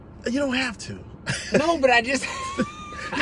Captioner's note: laughter